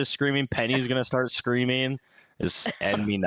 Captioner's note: laughs